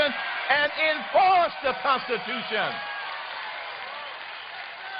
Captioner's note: applause